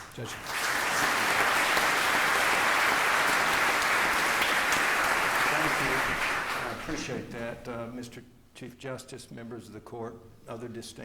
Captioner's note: applause